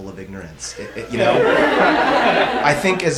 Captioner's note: audience laughs